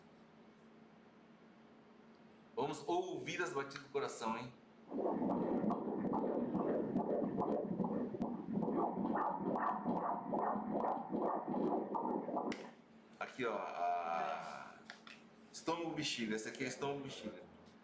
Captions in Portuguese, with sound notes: vamos ouvir as batidas do coração [BATIMENTOS CARDÍACOS] aqui a... estômago e bexiga esse aqui é estômago e bexiga